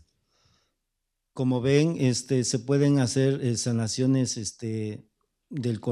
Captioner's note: speaking spanish